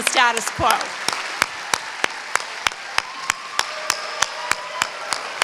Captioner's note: applause